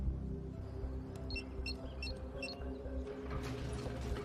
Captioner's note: beeping